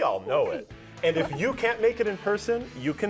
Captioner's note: laughs